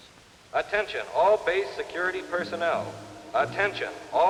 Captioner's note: man on PA